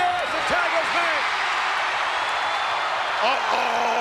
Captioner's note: audience cheering